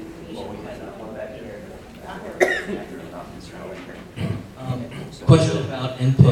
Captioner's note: speaking faintly